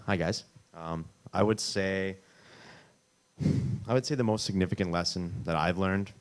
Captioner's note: exhales